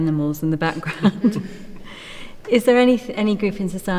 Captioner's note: laughter